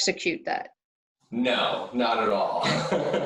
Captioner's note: laughs